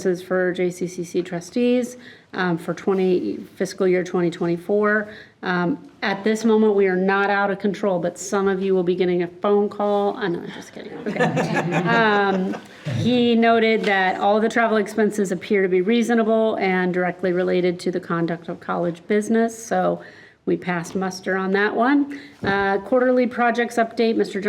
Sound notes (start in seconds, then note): 11.0 group laughing